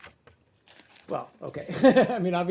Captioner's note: laughter